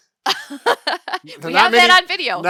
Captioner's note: laughing